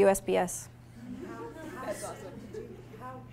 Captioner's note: audience laughing